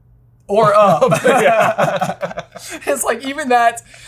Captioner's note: both laugh